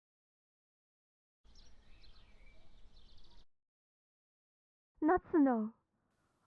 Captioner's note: none